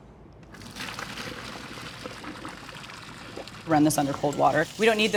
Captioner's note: water splashing